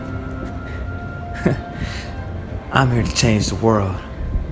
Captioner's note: laughs